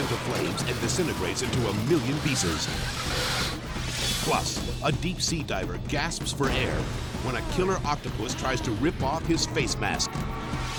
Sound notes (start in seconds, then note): 2.7 car skidding; 3.7 logo swooshing